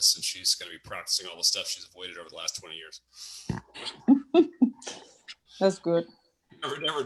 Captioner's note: chuckles